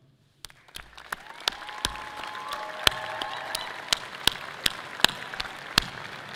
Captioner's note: audience clapping and cheering loudly